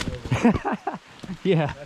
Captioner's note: laughing